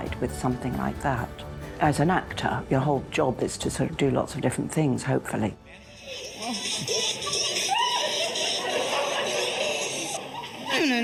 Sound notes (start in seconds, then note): 6.5 phone rings; 8.9 audience laughs